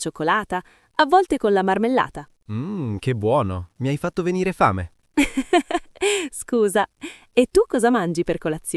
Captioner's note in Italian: risate